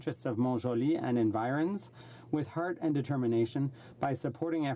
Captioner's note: speaking French